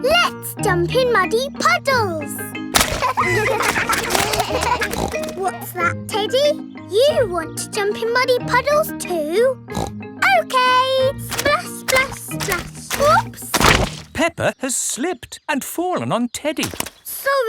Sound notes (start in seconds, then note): 2.8 snorts; 2.8 kids laughing; 9.7 snorts